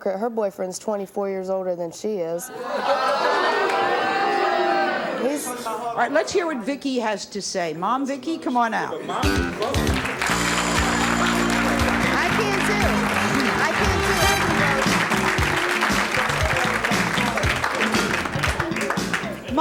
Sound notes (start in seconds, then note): 2.9 audience exclaims; 10.5 audience applause; 10.5 upbeat music